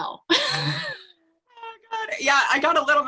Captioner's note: laughs